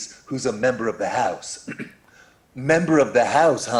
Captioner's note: clears throat